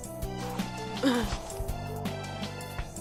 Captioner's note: grunt